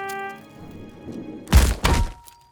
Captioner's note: trumpet fanfare; distant metal thump